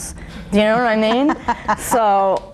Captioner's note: laughing